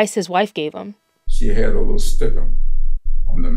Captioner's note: soundbite of archived recording